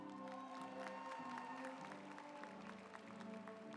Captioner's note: audience applauds